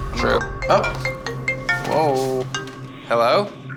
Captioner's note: phone ringing